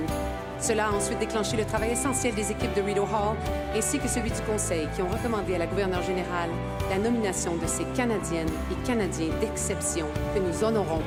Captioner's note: speaking French